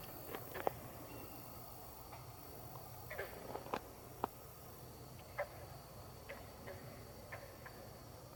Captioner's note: katydids forest sounds